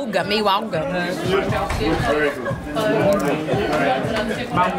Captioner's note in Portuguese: ambiência de restaurante